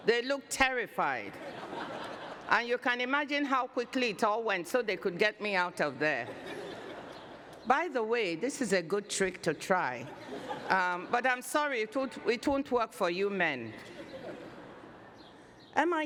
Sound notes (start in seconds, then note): 1.3 laughter